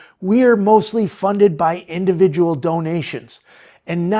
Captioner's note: none